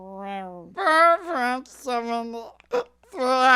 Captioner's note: slurring; slurring, hiccup